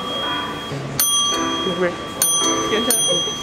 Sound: soft music; dinging; soft talking

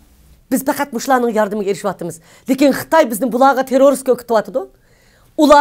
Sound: speaks in foreign language

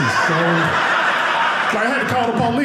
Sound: audience laughing

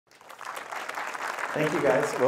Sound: applause

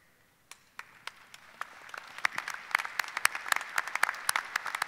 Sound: audience applauding

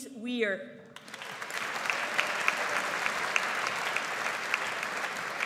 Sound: audience applauds

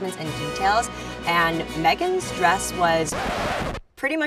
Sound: record needle scratches

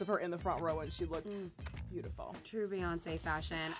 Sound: smooches

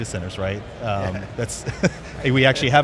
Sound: chuckles

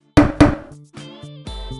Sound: slam table

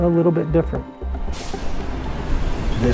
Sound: bus brakes releasing

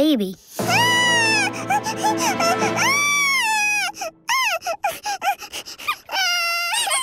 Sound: crying

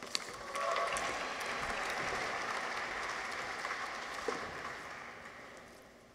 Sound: audience applauds; people cheer

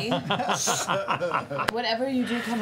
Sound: laughter

